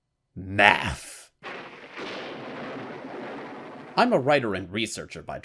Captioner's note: thunder crash!